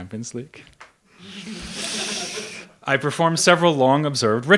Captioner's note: audience laughs